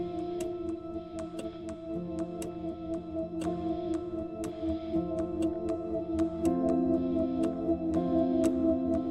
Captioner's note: suspenseful music; clock ticking